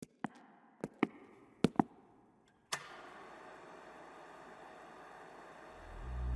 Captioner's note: switch clicks; footsteps tap